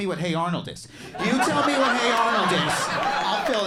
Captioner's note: crowd laughs